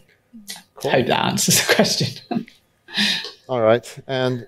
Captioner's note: chuckles